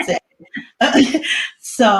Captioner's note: laughs